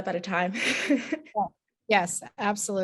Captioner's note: chuckles